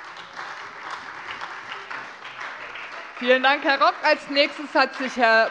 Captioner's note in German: Beifall Freie Demokraten und vereinzelt SPD